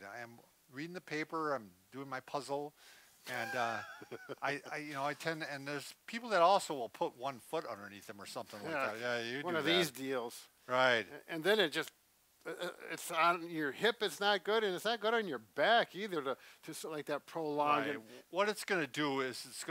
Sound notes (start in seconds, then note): 3.3 chuckles